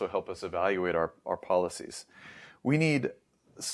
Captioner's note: inhales